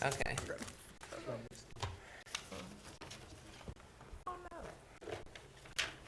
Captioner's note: board chatting quietly